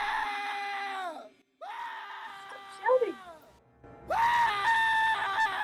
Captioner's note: she said while shouting it 😂